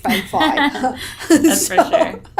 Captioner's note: laughing